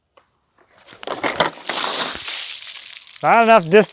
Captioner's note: water sloshing